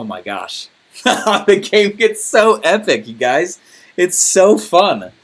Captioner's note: laughing